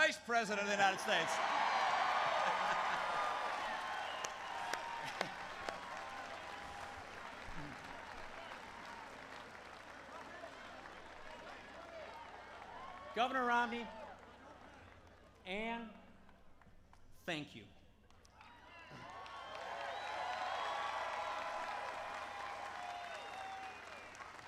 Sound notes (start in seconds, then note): 2.3 applause; 18.0 applause